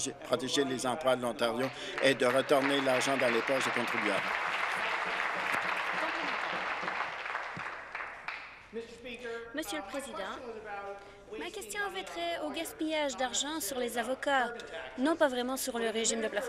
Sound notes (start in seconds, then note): 6.6 some Applause